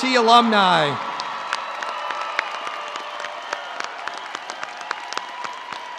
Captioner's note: audience cheering and applauding